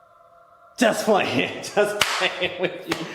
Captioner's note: laughs